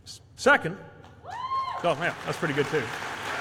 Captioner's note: applause